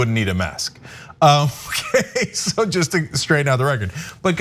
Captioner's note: laugh